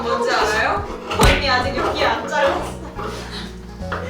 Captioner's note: haha